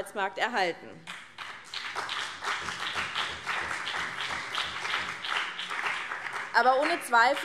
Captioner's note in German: Beifall BÜNDNIS 90/DIE GRÜNEN und CDU